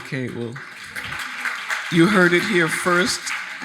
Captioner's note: audience applauding